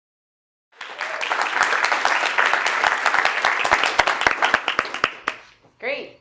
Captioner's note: applause